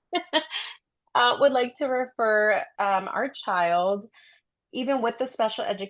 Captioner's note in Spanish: risas